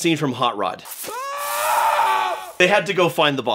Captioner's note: yelling